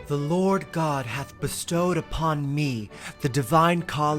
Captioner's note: handsome male voice